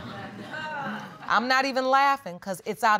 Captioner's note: audience chuckles